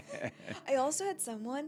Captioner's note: laughs